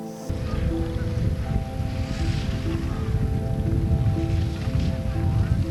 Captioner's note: skis scraping